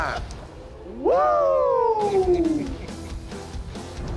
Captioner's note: laughs